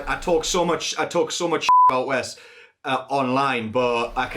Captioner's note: beep